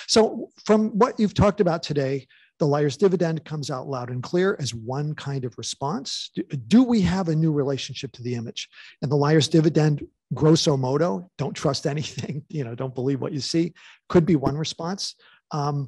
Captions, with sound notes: So from what you've talked about today, the Liar's Dividend comes out loud and clear as one kind of response. Do we have a new relationship to the image? And the Liar's Dividend, Grosso Modo, don't trust anything, (chuckles) you know, don't believe what you see, could be one response.